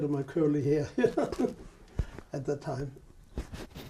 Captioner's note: laughs